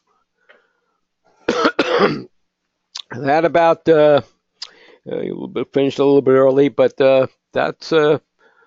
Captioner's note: cough